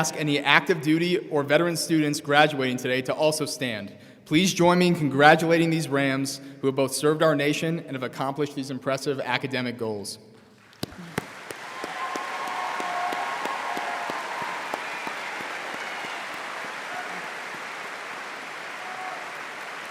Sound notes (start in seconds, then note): 10.8 audience applauding and cheering